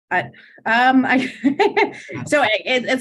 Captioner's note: chuckling